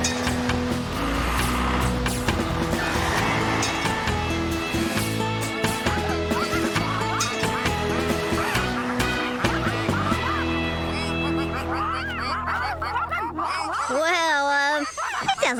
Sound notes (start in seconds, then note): 3.7 engines Running; 6.2 ducks Quacking